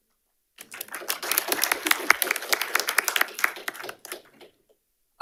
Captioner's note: audience applauding